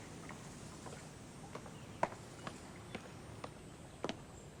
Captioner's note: heels clicking